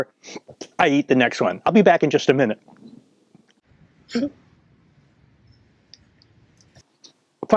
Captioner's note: hiccup